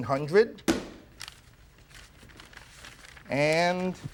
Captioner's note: paper rustling